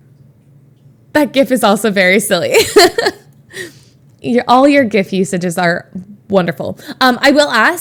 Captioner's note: Emma laughs